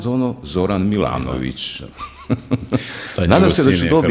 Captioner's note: laughter